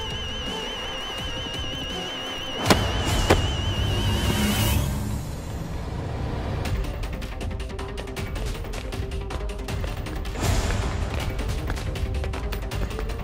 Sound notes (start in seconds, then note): 2.6 Thuds on ground; 11.1 Shoes clicking